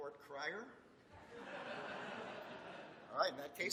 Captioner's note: laughter